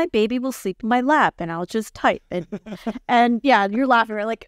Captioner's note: laughing